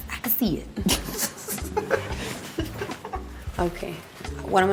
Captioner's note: laughs